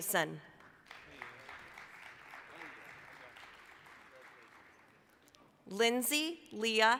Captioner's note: applause